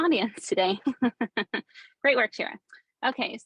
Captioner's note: chuckling